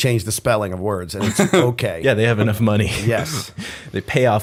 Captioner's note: chuckle